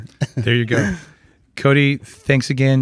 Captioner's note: laughs